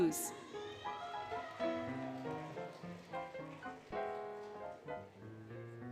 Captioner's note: applause, Cheering, Music